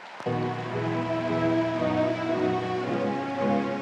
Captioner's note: audience applauds